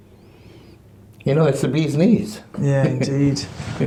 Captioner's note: laughs